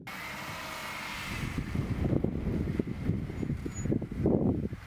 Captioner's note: wind howling